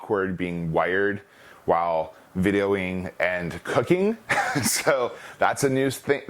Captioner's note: laughs